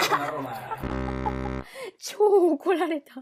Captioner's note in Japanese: 効果音